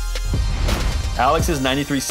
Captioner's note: whooshing sound effect